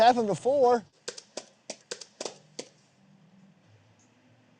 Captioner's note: keyboard clacking